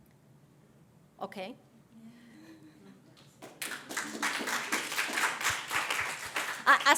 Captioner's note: audience applauds